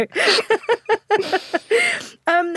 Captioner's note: both laugh